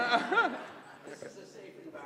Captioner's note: laugh